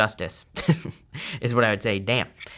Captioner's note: chuckles